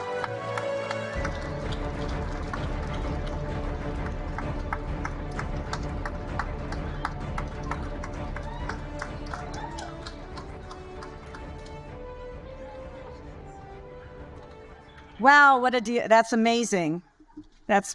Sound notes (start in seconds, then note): 5.5 applause continues; 5.5 majestic music continues